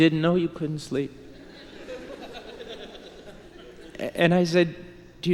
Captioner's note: laughter